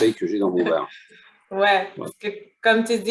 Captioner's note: laughter